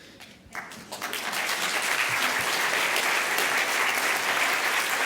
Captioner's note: applause